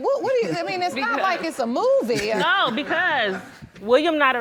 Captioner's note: audience chuckling